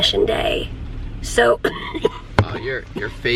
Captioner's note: coughing